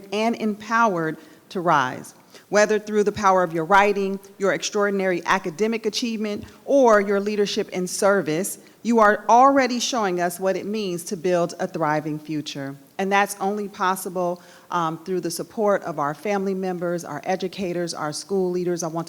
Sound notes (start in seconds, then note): none